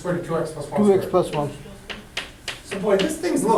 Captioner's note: voiceover